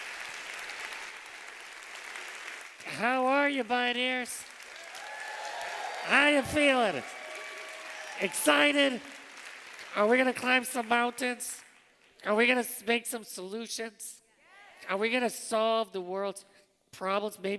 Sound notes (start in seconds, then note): 4.5 cheers